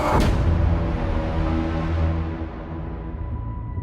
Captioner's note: ominous sound